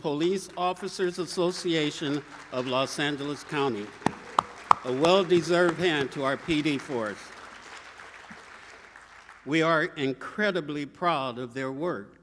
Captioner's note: applause